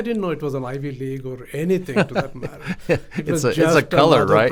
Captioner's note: laughs